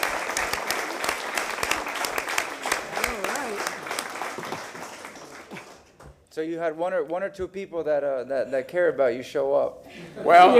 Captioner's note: applause